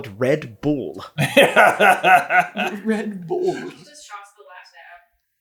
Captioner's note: laughter